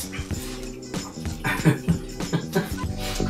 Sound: laughs in Lithuanian

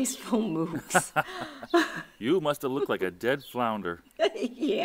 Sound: laughing; laughing

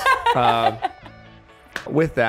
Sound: laughter

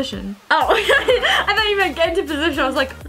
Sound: laughs

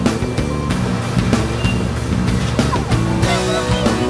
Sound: machinery humming

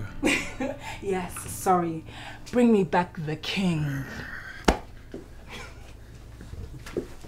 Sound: Efosa laughs; Nosa growls

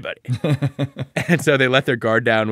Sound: laughing

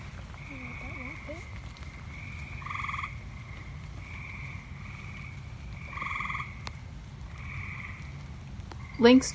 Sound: sounds of frogs calling from a marsh on a rainy summer evening

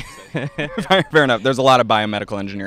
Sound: laughs

